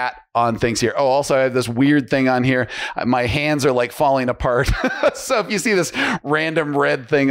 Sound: laughs

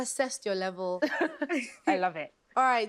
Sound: laughing

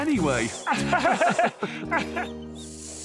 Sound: bob and roley chuckle

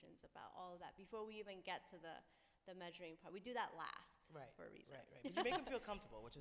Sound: laughs

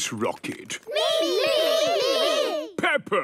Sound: calling out in turn

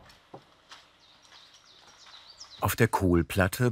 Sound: birds chirping

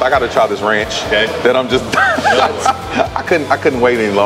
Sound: laughs

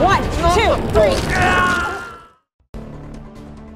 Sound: shouting

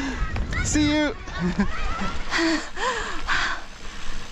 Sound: laughing

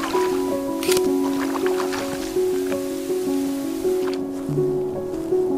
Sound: water splashing; camera snapping; footsteps pattering

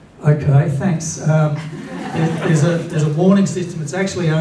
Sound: laughter

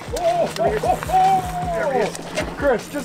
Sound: laughs

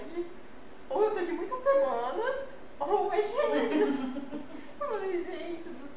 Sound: laughs

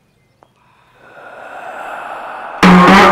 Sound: ghostly voice

